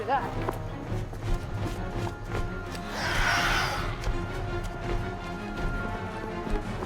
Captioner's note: dramatic music; creature screeches